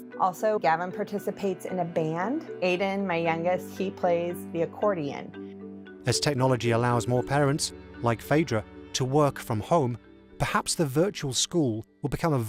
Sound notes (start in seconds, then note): 6.2 voiceover